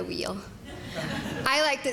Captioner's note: laughter